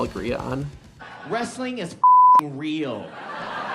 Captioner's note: beep; audience laughs